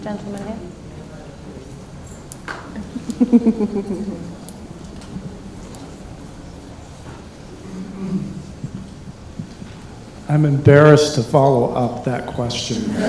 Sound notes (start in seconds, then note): 2.7 laughs